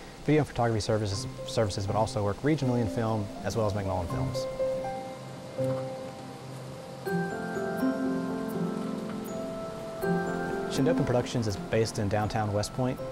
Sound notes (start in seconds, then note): 5.7 light chiming bells